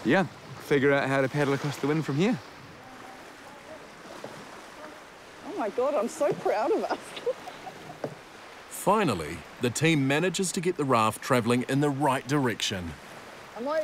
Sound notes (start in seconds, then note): 6.7 chortles